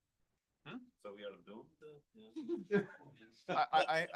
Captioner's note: laughter